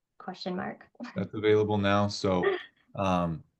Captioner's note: chuckles